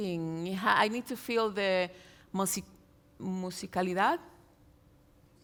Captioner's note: speaks in Spanish